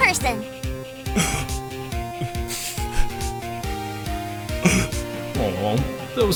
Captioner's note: gasp, sniffling